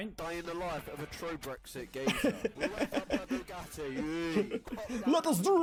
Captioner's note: laughing